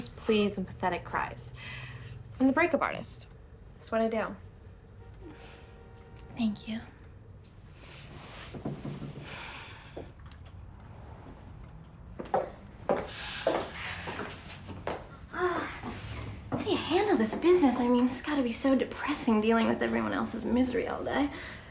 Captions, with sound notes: pleas and pathetic cries. I'm the break-up artist. It's what I do. Thank you. (sighs) How do you handle this business? I mean, it's gotta be so depressing dealing with everyone else's misery all day.